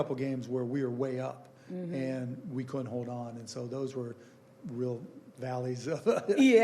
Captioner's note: laughing